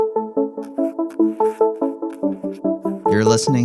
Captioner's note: bright music; pencil scratching